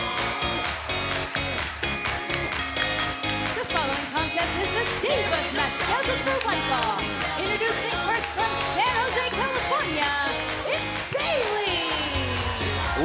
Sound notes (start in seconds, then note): 2.5 bell ringing